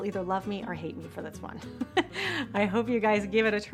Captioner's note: chuckling